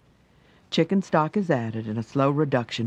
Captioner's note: voiceover